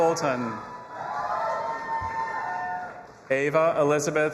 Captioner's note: audience applauding and cheering